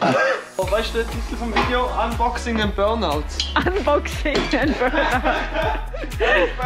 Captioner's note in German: lacht